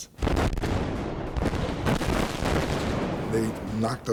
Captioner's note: bombs resound